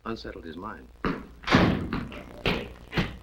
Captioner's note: stomping feet; door opens